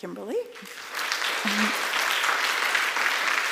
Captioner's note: applause